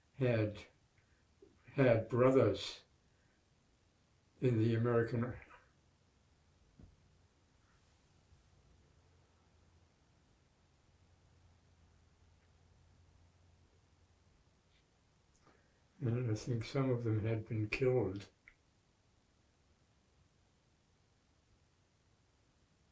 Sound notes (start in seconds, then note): 5.6 pauses 10 seconds; 19.2 pauses 11 seconds